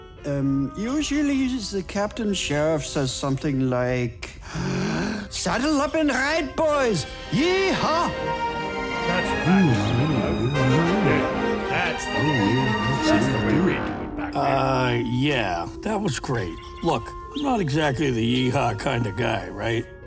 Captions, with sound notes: Uum... usually the Captain Sheriff says something like... ( takes deep breath ) "Saddle up and ride, boys! Yee-HAHH!" ( murmurs of agreement ) Uuh... yeah. That was great. Look, I'm not exactly the 'yee-haw' kind of guy, right?